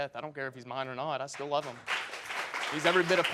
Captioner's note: audience applauding